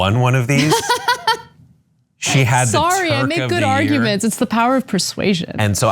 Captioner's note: laugh